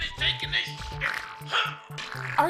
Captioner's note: grunting